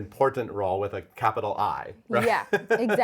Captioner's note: laughs